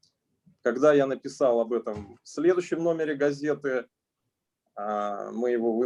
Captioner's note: speaking Russian language